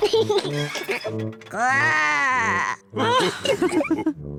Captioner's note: laughs; growls; all laugh